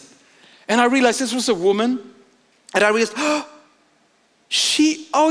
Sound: gasps

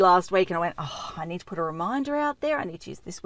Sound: sighs

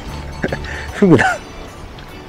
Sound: laughs

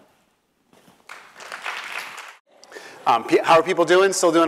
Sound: applause

